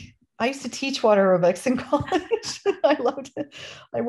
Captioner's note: laughter